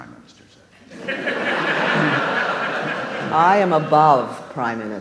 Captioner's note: audience laughs